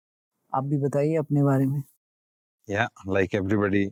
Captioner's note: speaking in Hindi